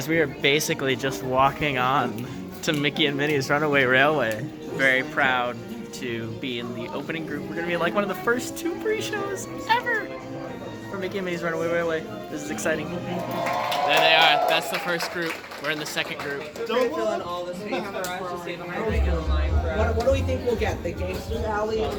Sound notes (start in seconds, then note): 13.1 applause